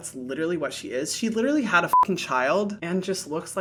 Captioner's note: beep